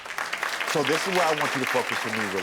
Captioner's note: audience applauds